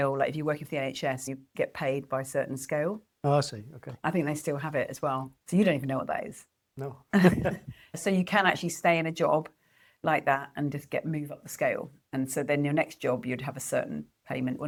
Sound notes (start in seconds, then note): 7.1 laughs